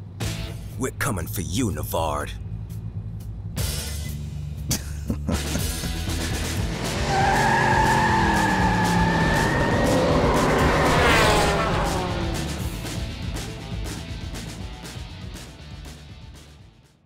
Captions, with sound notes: We're coming for you, Nevard. [chuckling] [tires squealing]